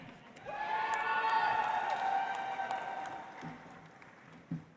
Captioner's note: audience applauds